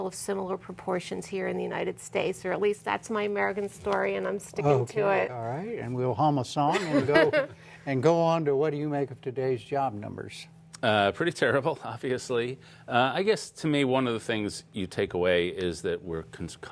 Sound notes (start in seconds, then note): 6.7 laughter